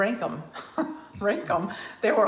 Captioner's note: laughs